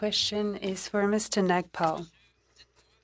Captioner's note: speaking in French